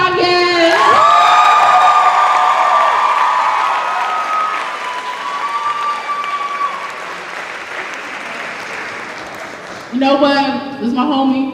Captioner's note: cheers and applause